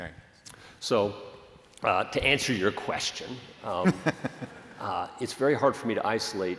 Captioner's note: laughter